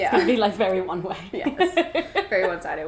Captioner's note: laughs